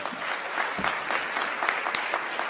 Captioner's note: applause